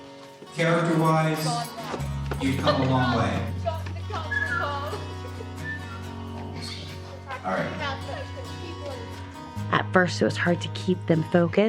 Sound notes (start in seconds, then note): 2.4 indistinct chatter; 4.2 whistles